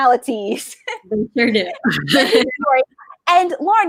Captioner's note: laughing